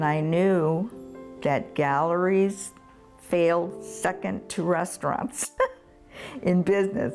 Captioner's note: laughs